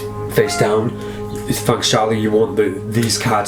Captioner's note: cat meows